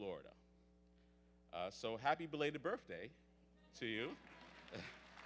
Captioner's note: audience applauds